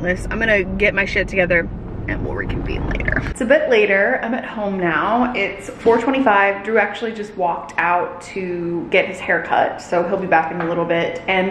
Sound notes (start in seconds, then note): none